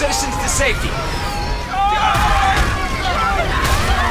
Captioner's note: yelling and screaming